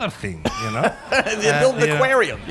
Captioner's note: laughter